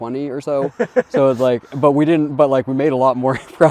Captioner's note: chuckling